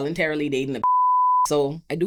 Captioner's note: beep